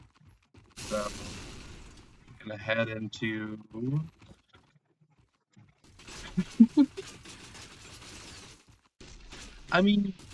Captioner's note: laughter